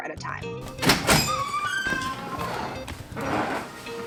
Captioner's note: door creaking